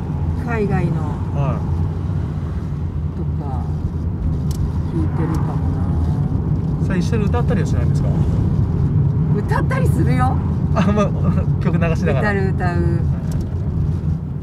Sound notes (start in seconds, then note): 9.8 laughs